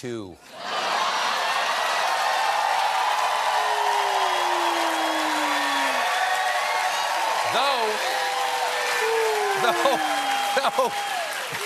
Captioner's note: cheers and applause; laughter